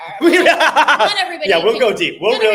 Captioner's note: laughing